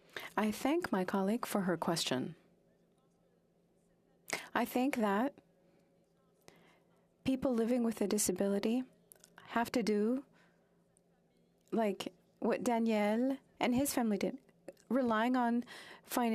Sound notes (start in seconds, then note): 3.6 speaking French